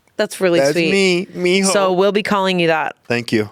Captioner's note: speaking foreign language